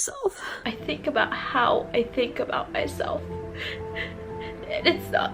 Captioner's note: inhaling